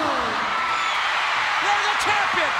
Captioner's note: crowd cheers